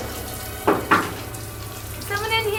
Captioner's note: banging noise outside; knock on door